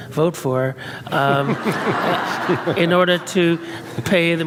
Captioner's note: and audience laughs